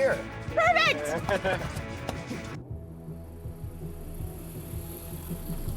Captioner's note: laughs